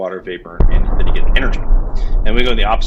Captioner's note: engine booms